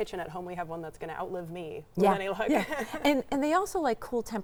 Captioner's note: laughs